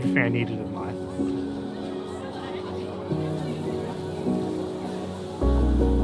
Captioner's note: attendees faintly chatting